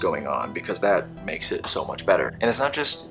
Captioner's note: sarcastically